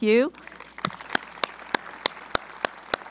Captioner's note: applause